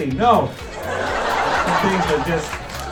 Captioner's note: applause